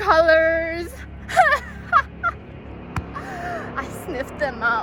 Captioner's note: maniacal laughter